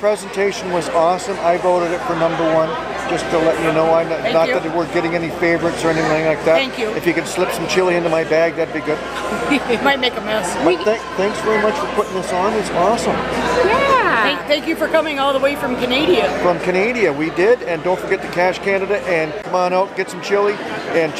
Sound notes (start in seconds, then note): 9.1 laughing